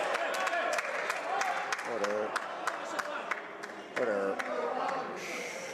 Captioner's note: crowd Noise